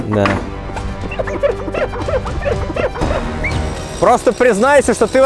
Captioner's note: squeaking